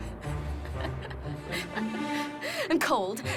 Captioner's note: chuckles